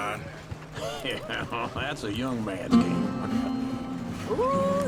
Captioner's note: laughs